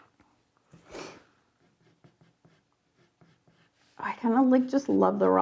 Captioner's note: pencil scraping